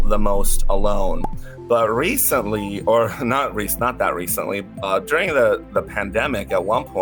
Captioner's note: pop